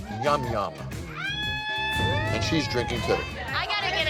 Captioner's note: bar patrons cheering